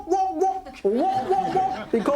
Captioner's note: audience laughing